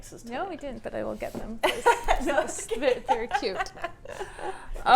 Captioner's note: laughs